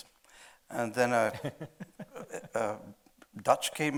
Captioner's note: chuckling